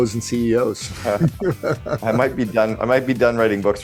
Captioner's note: laughing